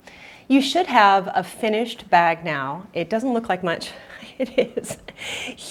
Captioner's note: laughs